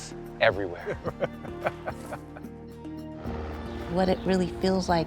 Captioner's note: Baratunde laughs